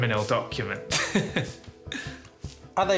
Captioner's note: laughs